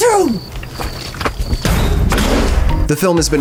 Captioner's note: slamming